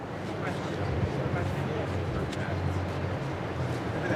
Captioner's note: crowd chattering